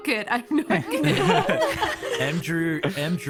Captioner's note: all nervous laughter